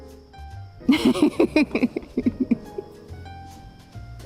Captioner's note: laughing